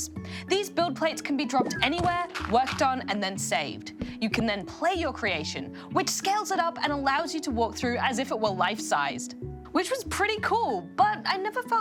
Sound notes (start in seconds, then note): none